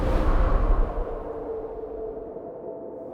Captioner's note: eery sound effects